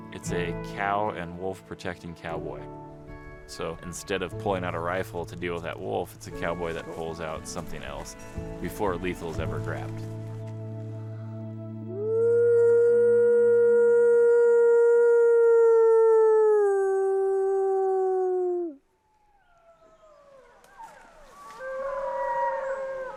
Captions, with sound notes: It's a cow and wolf protecting cowboy. So instead of pulling out a rifle to deal with that wolf, it's a cowboy that pulls out something else before lethal is ever grabbed. (narrator howling) (coyote's howling)